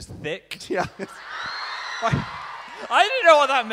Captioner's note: giggling